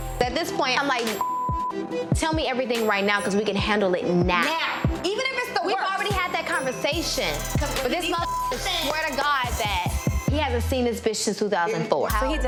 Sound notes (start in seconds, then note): 1.1 beep; 6.2 beep